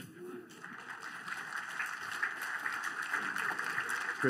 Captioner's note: applause